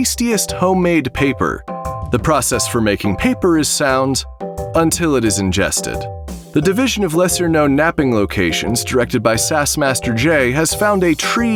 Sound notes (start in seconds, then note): none